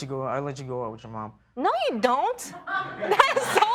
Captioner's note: laughter